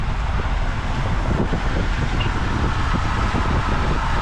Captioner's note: engine humming